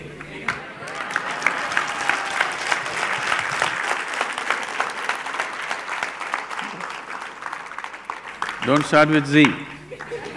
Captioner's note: applause